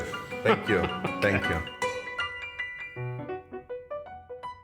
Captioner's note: laughs